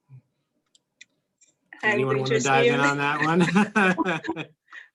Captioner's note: laugh